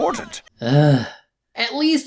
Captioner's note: sigh